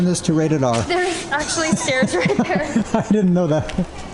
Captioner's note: laughter